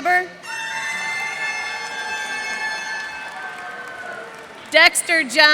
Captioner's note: cheers and applause